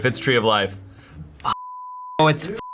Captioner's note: beep